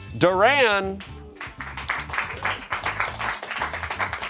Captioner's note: friends clap